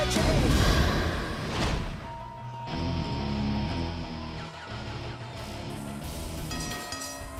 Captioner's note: bell ringing